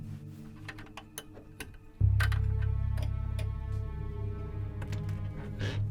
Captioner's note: fumbling of keys at the door